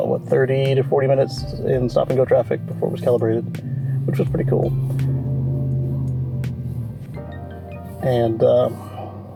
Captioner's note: loud truck engine